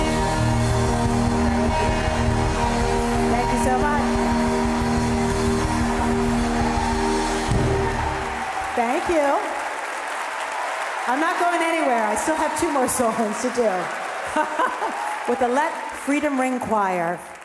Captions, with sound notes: Thank you so much. (audience applauding) Thank you. I'm not going anywhere. I still have two more songs to do (laughs) With the Let Freedom Ring Choir.